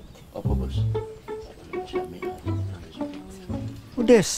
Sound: murmuring

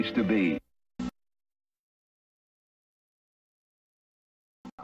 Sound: silence

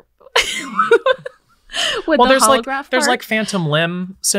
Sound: laughs

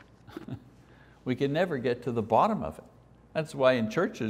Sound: chuckles

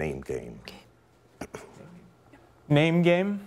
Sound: whispering

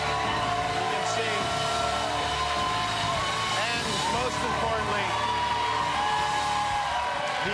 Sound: cheers and applause

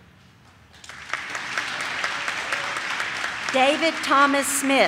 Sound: audience claps

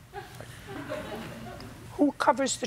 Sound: laughter

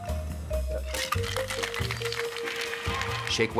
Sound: ice rattling

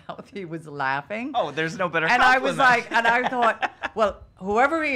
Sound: laughs

